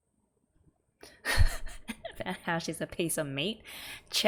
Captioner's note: laughs